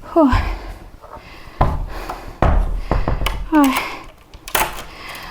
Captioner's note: sighing